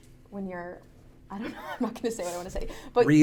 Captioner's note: laughs